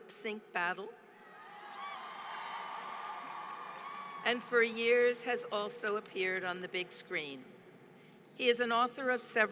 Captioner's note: applause